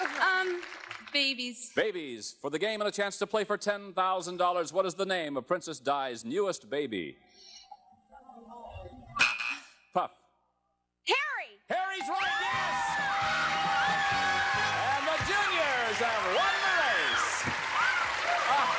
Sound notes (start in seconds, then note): 9.3 buzzer sounds